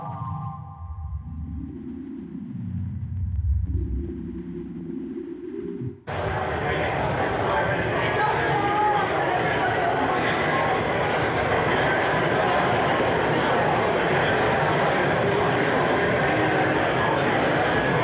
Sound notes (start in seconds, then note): 6.6 crowd chattering